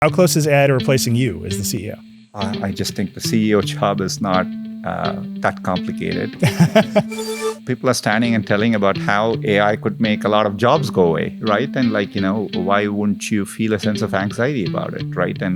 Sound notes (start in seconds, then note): 6.4 Nilay laughing; 6.4 upbeat music